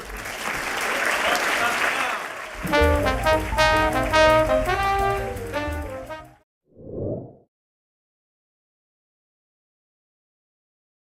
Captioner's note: applause and Music